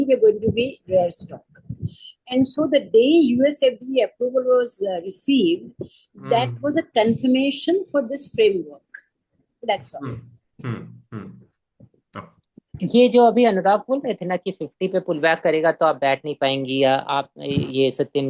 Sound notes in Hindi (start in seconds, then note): 10.6 गला साफ़ करने की आवाज़